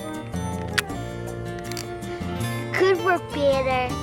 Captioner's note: camera snaps